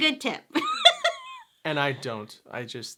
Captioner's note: laughs